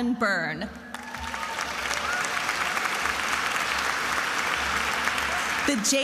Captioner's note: attendees applauding and cheering